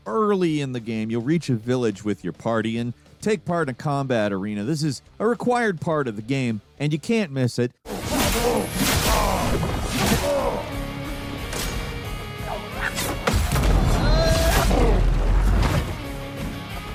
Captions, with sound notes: Early in the game, you'll reach a village with your party and take part in a combat arena. This is a required part of the game and you can't miss it. (fighters grunting) (dynamic music)